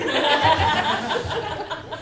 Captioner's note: laughter